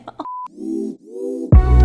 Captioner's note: laughs; upbeat music; screen beeps